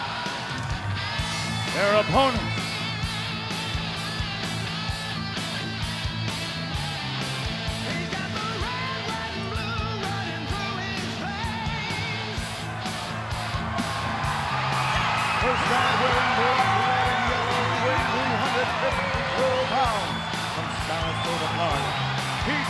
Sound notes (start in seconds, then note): 3.6 energetic rock music continues; 13.8 audience cheers